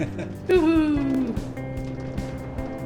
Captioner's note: laughs